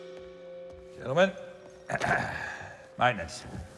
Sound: clears throat

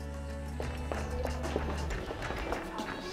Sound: laughs

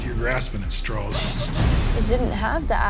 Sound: sobs

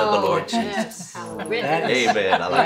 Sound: others murmur agreement

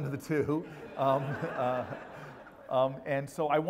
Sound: laugh

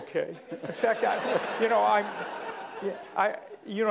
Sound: laughter

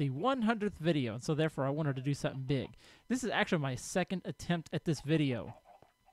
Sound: llama calls

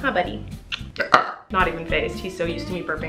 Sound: Colleen burps

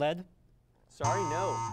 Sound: error buzzer

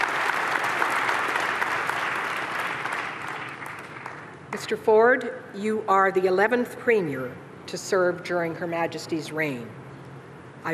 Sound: applause

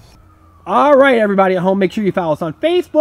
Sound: voiceover

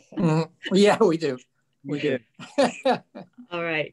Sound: laughs

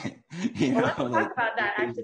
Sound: laughs

